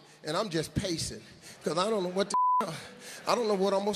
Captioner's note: beep